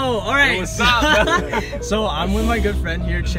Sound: ahaha

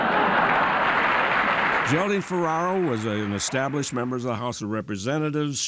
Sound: applause

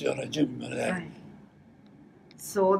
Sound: foreign language

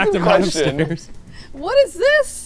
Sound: laughing

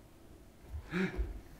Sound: grunts

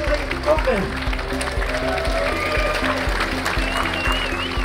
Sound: applause

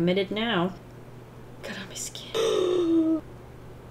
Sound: gasps dramatically

